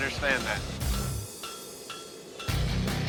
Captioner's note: metallic clinking